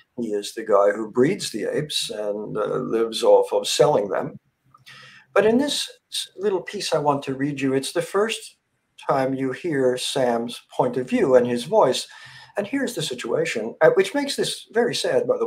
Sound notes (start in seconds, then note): none